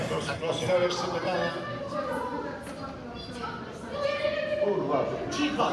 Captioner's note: kids making noise